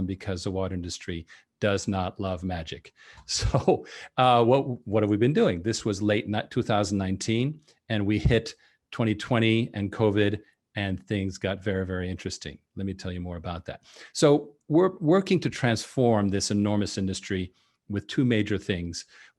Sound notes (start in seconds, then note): 3.2 chuckles